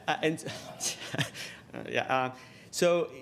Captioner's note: laughs